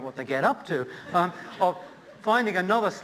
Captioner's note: laughter